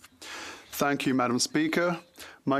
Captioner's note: speaking French